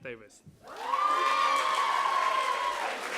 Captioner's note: applause